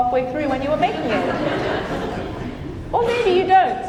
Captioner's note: audience laughing